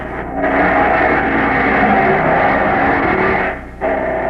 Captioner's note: engine roaring